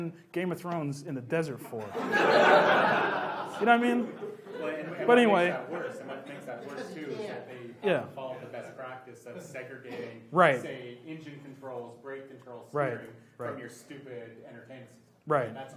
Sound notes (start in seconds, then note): 1.8 laughs